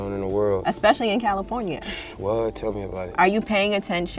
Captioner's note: scoffs